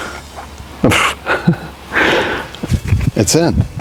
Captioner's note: laughing